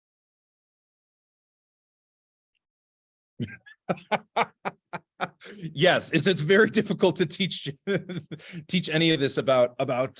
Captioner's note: laughter